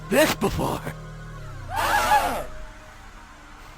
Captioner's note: terrified scream